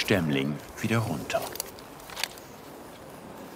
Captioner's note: cracking